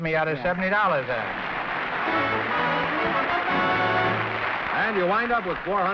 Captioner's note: applause